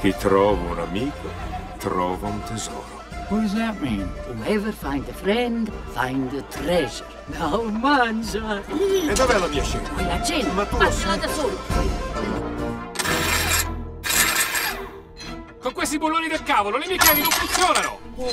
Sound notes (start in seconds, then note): 0.1 speaking in foreign language; 7.5 speaking in foreign language; 9.1 uncle and Mama speaking in foreign language; 14.0 wrench whirring; 15.7 speaking in foreign language